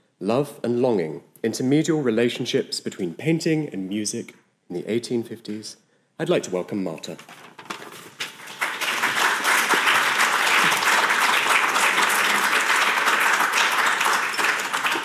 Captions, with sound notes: "Love and Longing: Intermedial Relationships Between Painting and Music in the 1850s." I'd like to welcome Marte. (audience applauding)